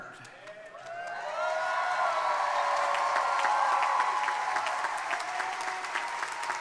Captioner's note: crowd cheering